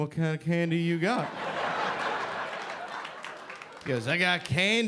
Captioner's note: audience laughing